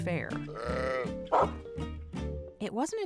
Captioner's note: sheep bleats; dog barks